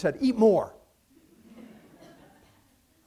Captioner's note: laughter